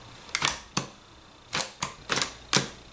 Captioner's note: clicks